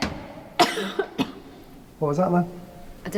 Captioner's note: banging